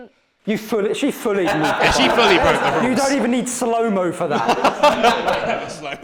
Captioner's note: laughter